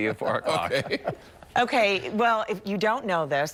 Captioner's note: laughter